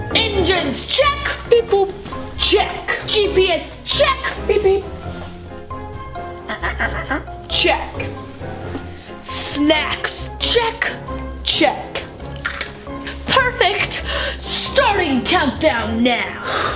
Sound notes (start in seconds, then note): 6.1 squeaking; 12.4 crunches